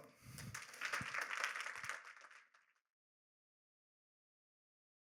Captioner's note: applause